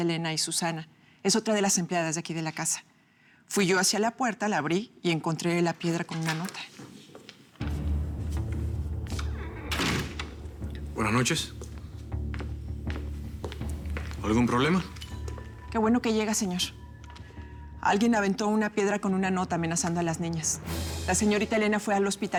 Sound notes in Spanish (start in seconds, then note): 5.9 ruido al abrir la puerta; 9.7 ruido al cerrar la puerta